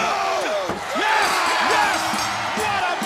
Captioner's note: bell ringing